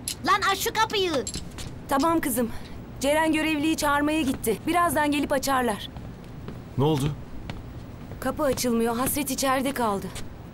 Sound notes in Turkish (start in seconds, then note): none